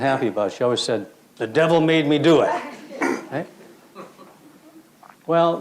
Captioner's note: crowd laughs